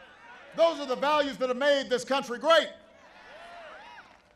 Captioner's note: applause